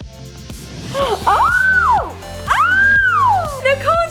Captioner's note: excited squealing